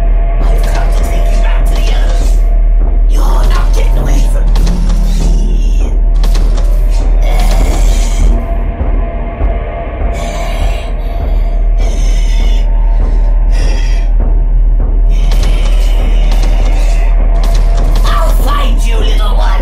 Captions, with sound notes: I've come to take your back to you! You're not getting away from me! *growls/moans* *angry breathing* *Angry breathing* *Footsteps with a scrape* I'll find you little one!